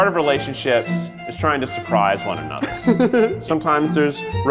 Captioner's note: laughter